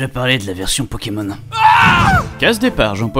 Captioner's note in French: Cri